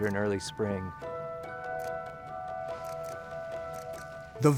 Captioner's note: whimsical music; camera shutter clicking